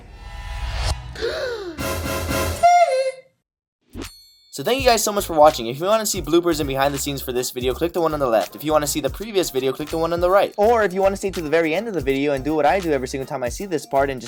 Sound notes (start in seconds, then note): 0.0 horror music; 1.2 gasping